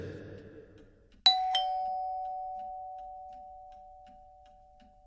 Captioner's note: ding dong